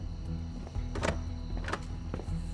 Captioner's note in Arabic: يصدر خشخشة بمقبض الباب المغلق